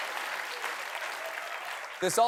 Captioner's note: cheers and applause